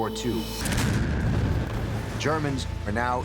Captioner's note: artillery fires